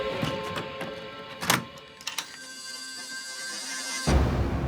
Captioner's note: locks clicking